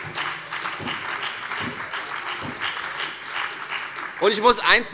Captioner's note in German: Beifall bei der FDP, der SPD und der LINKEN